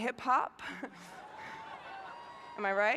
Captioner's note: cheering